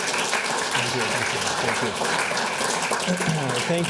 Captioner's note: applause